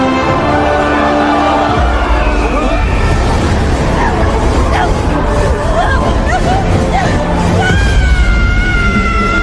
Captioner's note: winds howling